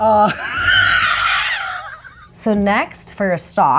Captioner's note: laughs